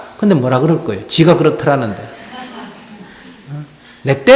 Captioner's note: audience Laughter